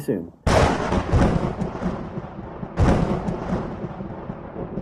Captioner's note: thunder cracking